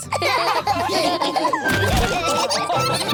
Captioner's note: all laughing